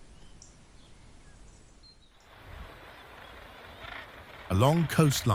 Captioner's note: birds chirping; crow cawing